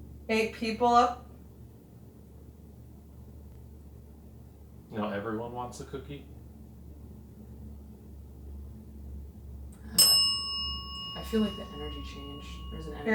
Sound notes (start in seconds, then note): 9.9 bell dings